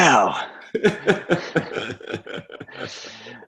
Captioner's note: laughing